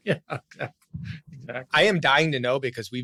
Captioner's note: laughs